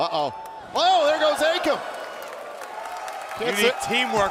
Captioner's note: crowd cheering